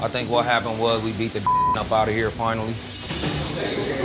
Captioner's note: beep